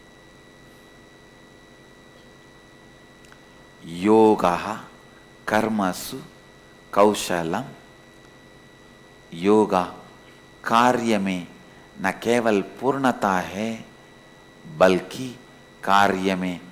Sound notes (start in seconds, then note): 11.3 hindi